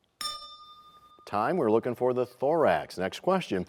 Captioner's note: bell rings, time expires